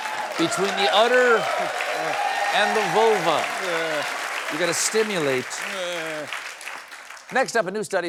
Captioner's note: laughter and applause